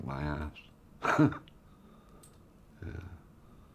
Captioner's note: laughs